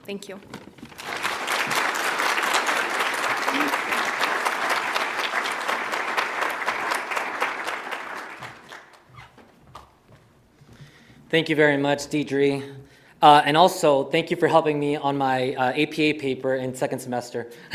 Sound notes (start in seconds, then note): 0.8 audience applauds; 1.0 audience cheers